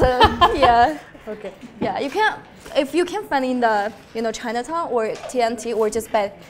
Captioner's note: laughs